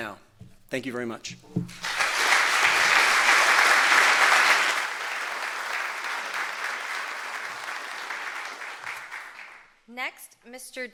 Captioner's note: applause